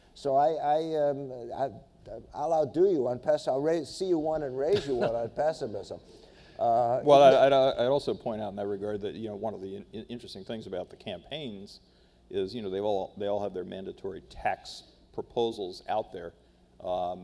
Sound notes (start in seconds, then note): 4.7 laughs